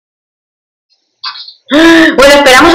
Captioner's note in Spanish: Abril suspira